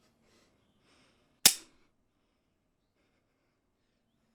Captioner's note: click